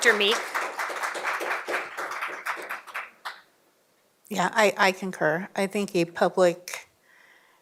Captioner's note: applause